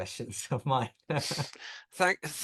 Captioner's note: chuckles